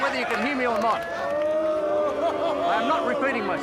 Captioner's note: prisoners laugh rudely